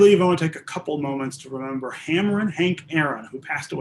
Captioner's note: laughing